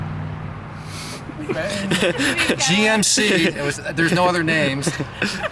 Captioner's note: laughs